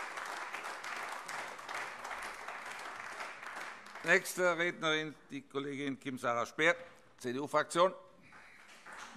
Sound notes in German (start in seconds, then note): 1.9 Beifall AfD